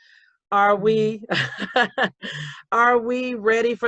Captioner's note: laughs